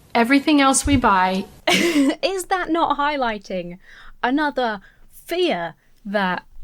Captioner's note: laughs